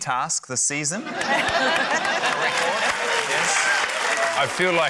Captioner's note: laughter, applause